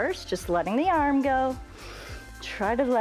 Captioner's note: inhales